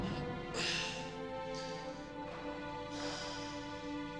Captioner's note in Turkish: Nefes sesi